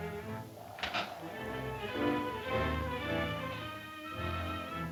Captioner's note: chair creaking